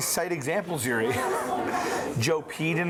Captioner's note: chuckles